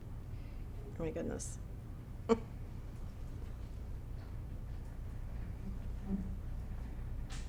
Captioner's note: giggles